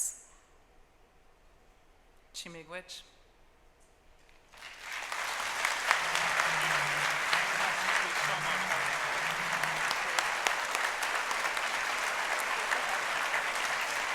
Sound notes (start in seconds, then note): 4.4 applause